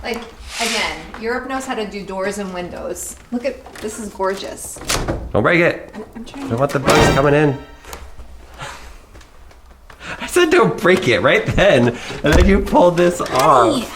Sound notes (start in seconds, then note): 7.6 dramatic music; 11.8 laughs